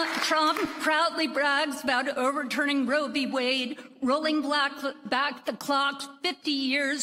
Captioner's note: applause